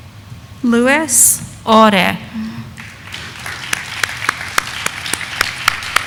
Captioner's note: audience applauding